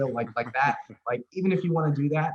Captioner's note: laughing